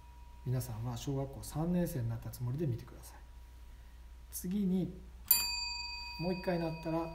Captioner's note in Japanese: ベルの音